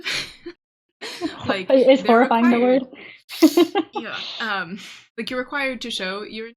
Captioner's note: laughing